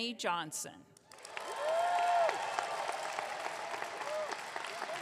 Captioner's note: audience clapping